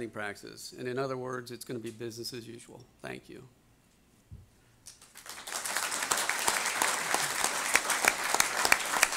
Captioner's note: audience applause